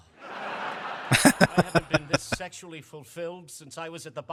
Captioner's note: laughing